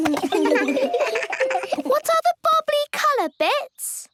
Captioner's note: giggles